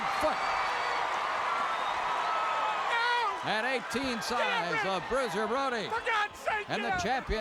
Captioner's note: applause